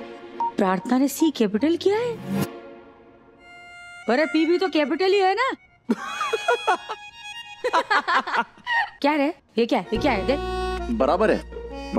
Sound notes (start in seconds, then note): 5.9 laughing